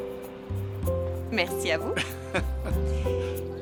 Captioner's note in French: rires